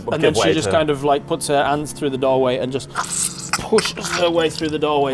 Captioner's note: squelch